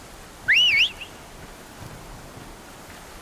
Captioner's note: whistle